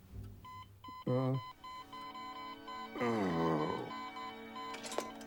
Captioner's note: beeping increases rapidly; Randolph groans